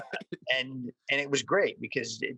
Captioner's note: laughs